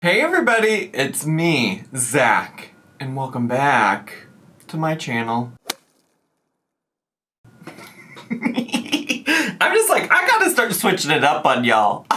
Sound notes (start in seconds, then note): 5.9 logo thuds; 7.6 laughs